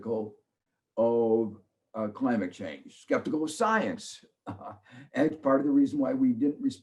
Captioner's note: laughs